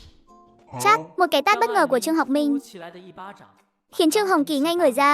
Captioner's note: slap!